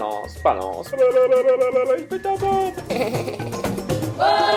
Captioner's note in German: Gröhlt